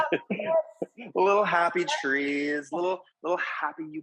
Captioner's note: laughing